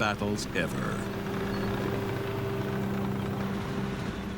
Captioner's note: tank roaring